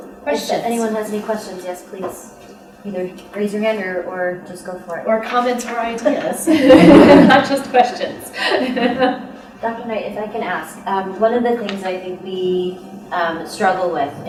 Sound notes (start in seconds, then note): 6.4 laughter